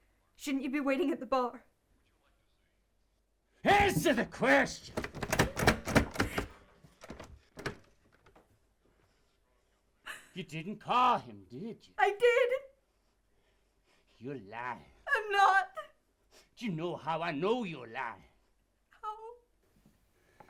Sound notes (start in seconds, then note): 3.7 door handle rattling; 11.1 Tina whimpering